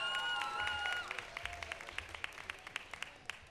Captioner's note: applause